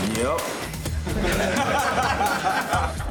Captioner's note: laughter